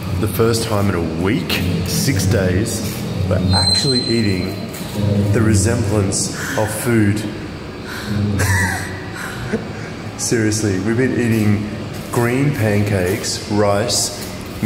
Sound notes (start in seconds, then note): 7.3 laughs; 7.8 breathes